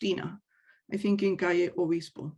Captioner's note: speaks in native language